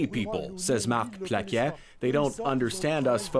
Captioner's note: speaking French